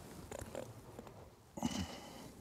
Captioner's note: quiet groan